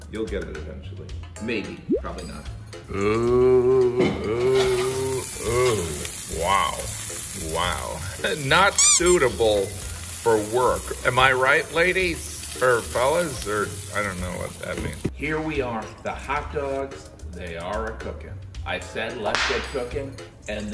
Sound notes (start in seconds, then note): 2.8 hot dog sizzling; 8.7 squeak; 8.8 laughs; 19.3 whip cracking